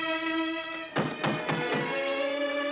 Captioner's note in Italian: bussano alla porta